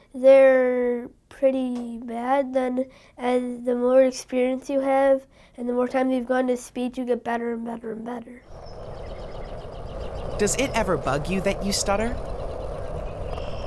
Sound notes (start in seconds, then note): 8.4 birds chirping; 8.4 insect sounds